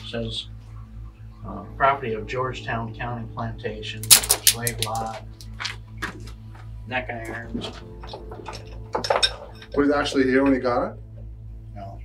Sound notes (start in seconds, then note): 8.9 metal clanging